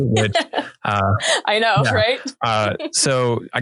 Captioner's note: laughing